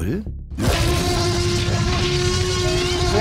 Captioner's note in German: Trompetendes Brüllen